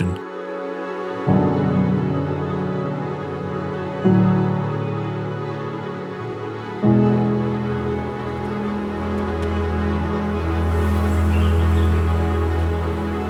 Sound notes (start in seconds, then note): 11.0 birdsong, windnoise